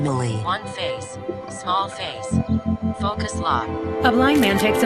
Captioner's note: voiceover